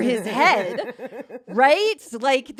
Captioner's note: laughs